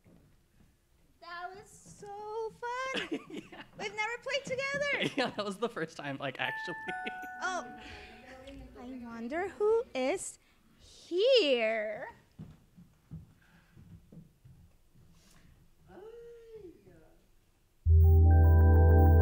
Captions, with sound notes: That was so fun! We've never played together. I was the first time, actually. *Bell Rings* I wonder who is here?